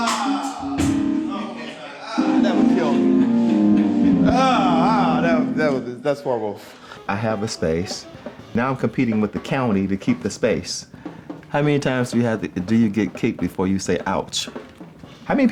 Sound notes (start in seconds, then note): 1.5 laughing